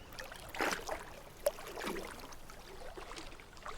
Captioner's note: water splashing